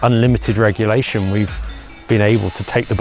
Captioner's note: welder buzzing